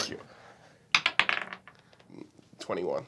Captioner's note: dice bouncing